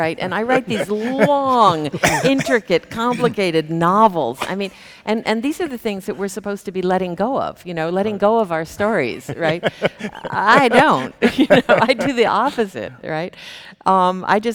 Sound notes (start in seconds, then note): 9.0 laughing